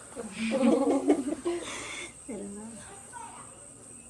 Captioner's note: laughter